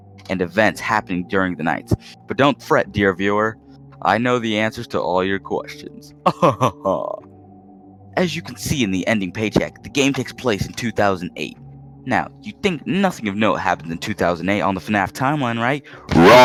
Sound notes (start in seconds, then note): 6.2 dumb ass laugh